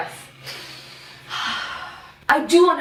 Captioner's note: 𝓭𝓮𝓮𝓹 𝓫𝓻𝓮𝓪𝓽𝓱